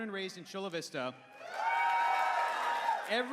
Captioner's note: cheering